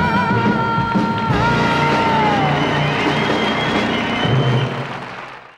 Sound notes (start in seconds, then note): 1.8 audience applause